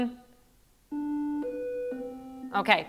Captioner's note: three tones sound